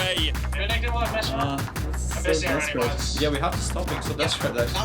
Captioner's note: all chattering